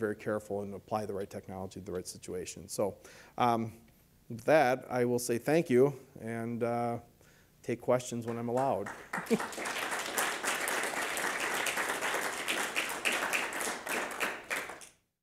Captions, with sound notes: and apply the right technology to the right situation. So, with that, I will say thank you, and take questions when I'm allowed. (applause)